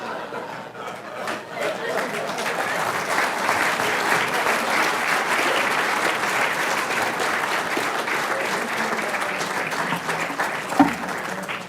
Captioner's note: applause